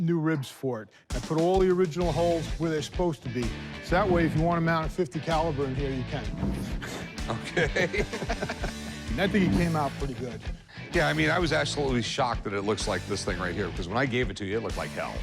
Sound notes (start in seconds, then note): 7.2 laughter